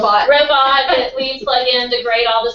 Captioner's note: laugh